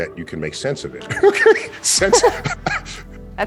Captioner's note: both chuckling